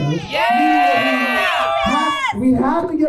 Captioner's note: crowd cheers